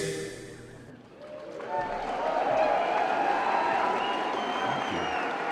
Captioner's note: applause & Cheering